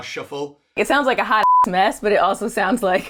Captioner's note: beep